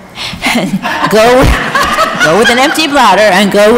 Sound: audience laughs

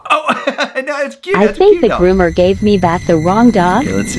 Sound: robotic Voice

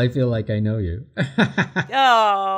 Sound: laughs

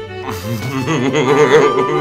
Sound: laughs

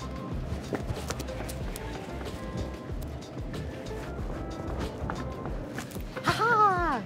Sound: ambient music; footsteps clacking

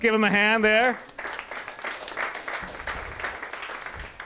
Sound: applause

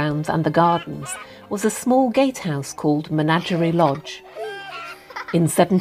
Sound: hens clucking and children laughing

